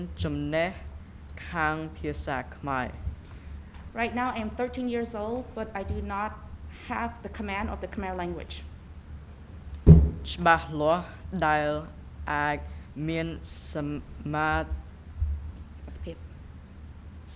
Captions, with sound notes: Right now I'm 13 years old, but I do not have the command of the Khmer language. (speaking in a foreign language)